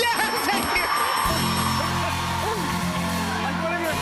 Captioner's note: cheers and applause